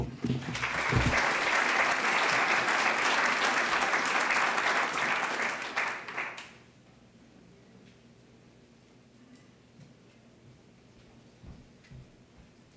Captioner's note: applause